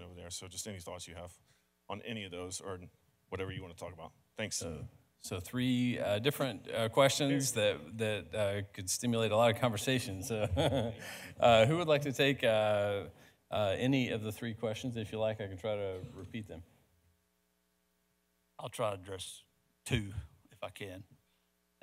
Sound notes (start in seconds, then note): 6.6 speaks quickly; 10.2 chuckles